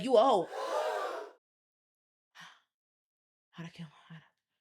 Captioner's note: gasping